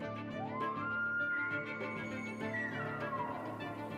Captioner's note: elk bugles